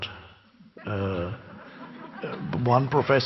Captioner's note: crowd chuckles